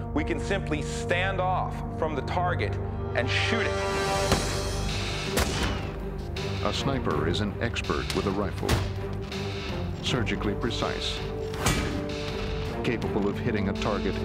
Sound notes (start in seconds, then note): 5.3 gun fires; 6.9 voiceover